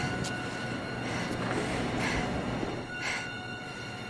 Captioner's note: panting